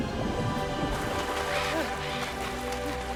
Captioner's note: caws